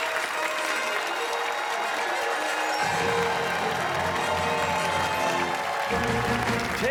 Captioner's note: fanfare; cheers and applause